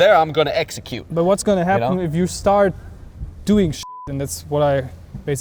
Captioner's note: beep